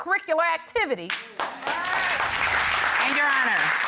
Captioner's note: audience exclaims